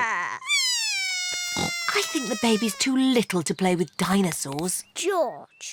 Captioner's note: bawls